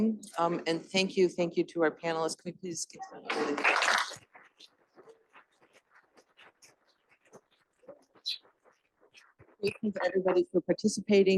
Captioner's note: applause